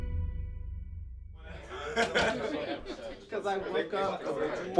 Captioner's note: chatter